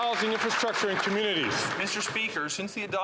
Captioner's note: some Applause